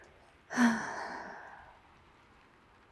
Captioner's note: happy sigh